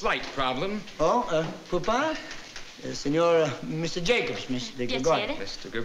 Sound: non-english

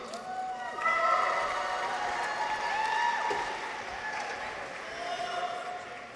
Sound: people cheer; audience applauds

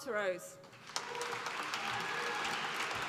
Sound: applause

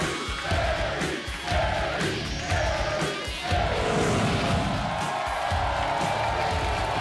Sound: audience cheering

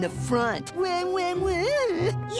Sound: imitates crying

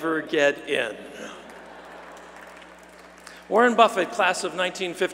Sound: applause

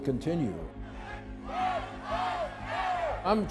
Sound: people chanting

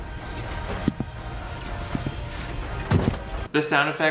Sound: footsteps thudding

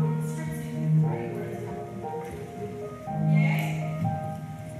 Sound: snaps fingers; piano interlude

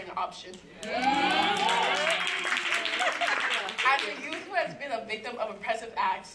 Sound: applause

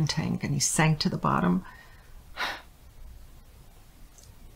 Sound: sighs

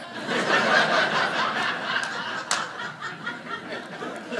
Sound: audience laughing

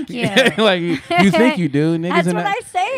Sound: laughing

